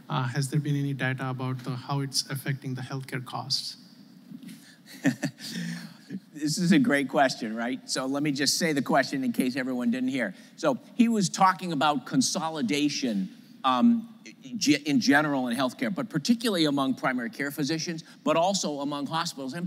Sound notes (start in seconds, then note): 4.9 laughs